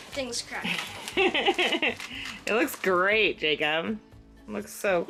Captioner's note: laughs